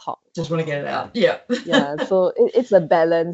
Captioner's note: laughs